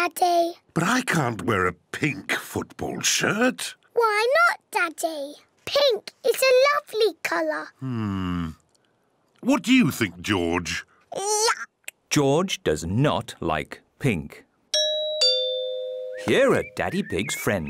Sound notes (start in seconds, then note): 14.7 doorbell rings